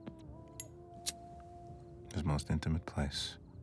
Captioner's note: lighter clicking